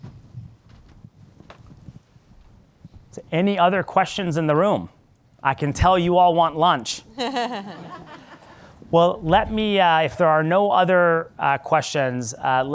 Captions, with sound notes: Any other questions in the room? I can tell you all want lunch. (crowd laughs) Well, let me, if there are no other questions,